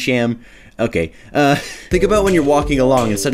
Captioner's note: wheeze